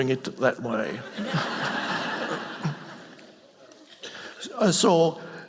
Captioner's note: audience laughing